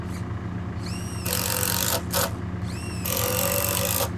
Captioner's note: drill buzzing